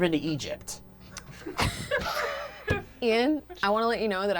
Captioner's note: stifled laughing